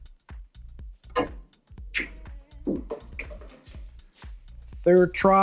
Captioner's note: billiard balls clanging